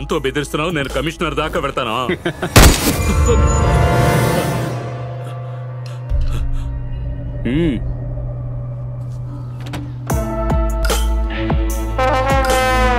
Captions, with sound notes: You are threatening me with a gun. I'll take this up with the police commissioner. [Laughs] - [Gunshot]